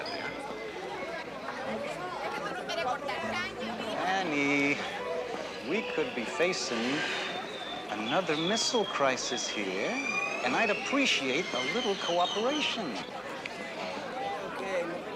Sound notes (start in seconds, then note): 0.9 indistinct chatter; 13.4 indistinct chatter